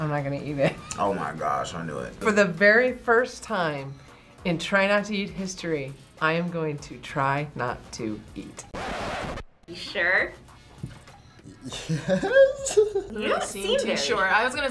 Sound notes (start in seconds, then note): 8.6 record scratches; 11.4 laughs